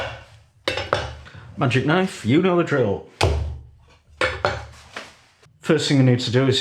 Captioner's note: blam!